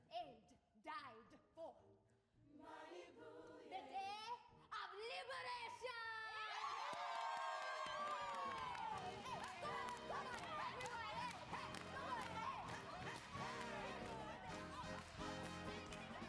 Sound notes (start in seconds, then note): 6.5 all cheer; 8.8 upbeat music